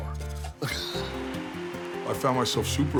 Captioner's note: laughing